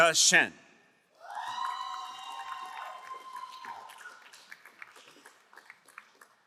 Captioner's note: crowd cheering and applauding